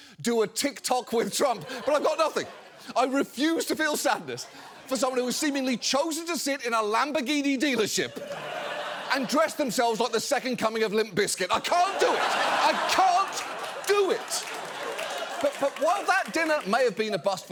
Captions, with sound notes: "Do a TikTok with Trump." But I've got nothing. I refuse to feel sadness for someone who has seemingly chosen to sit in a Lamborghini dealership and dress themselves like the second coming of Limp Bizkit. I can't do it! I can't do it! (AUDIENCE LAUGHS) But while that dinner may have been a bust